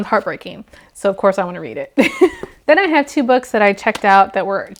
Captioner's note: laughs